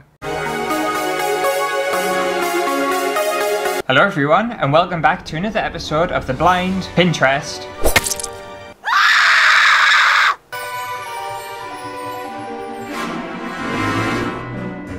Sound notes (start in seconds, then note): 0.9 intro Music; 8.8 hysterical Scream